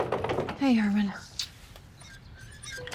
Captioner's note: rolling luggage; blows a kiss; creaking